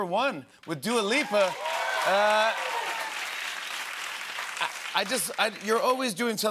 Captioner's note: cheers and applause